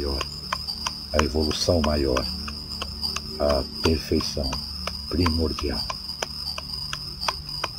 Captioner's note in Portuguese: vibração